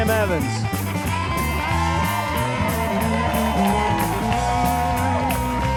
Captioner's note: audience cheering and applauding